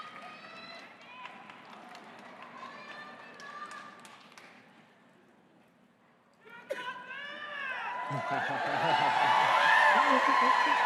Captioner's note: crowd cheering